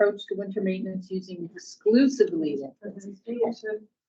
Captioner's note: speaking faintly